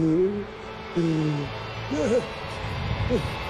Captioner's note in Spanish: Quejidos